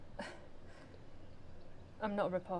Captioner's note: Ella chuckles softly